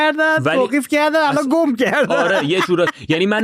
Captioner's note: laughs